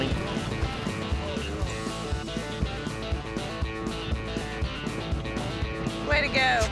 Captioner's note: hoofbeats